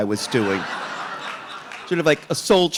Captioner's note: audience laughing